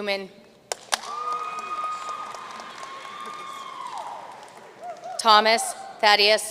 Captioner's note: audience cheering and applauding